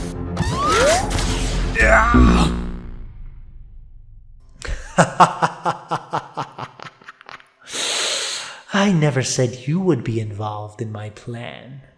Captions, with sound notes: *Eggman shouts his final shout* *Robotnik laughs* I never said you would be involved in my plan...